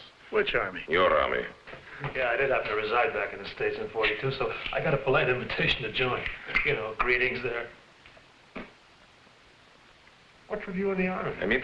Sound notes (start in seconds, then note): 8.3 spitting